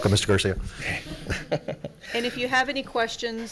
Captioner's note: board laughs